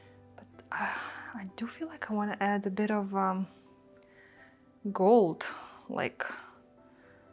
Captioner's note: sighs